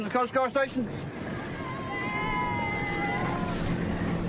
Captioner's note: cheers